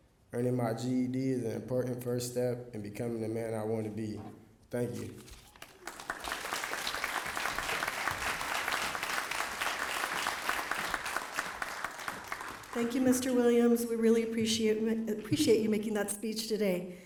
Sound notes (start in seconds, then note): 5.4 applause